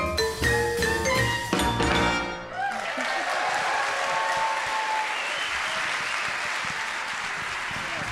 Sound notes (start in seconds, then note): 2.4 audience cheering; 2.5 audience applauding